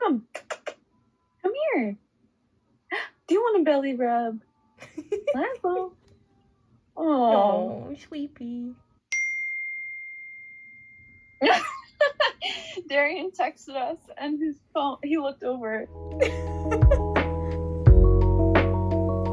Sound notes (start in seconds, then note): 9.2 phone ding